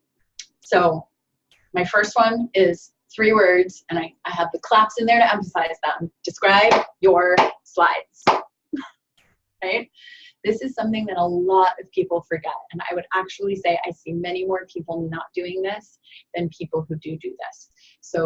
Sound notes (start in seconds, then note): 6.6 claps